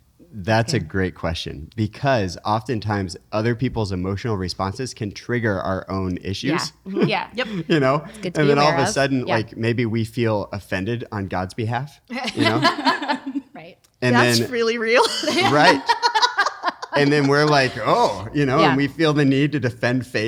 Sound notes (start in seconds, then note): 12.2 laughing; 15.0 laughing